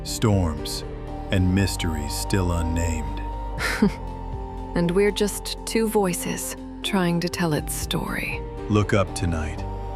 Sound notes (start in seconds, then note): 3.6 smiling, gentle laugh